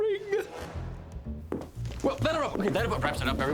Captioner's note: footsteps